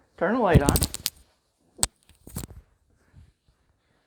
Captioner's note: crinkle from the mic falling